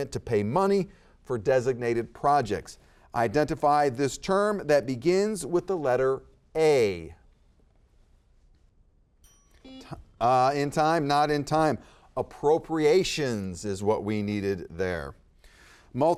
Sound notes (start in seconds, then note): 9.2 bell ringing; 9.3 buzzer beeping